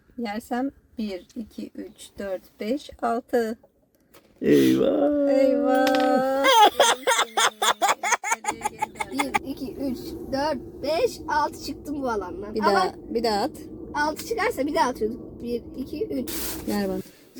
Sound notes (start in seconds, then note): 6.3 laughing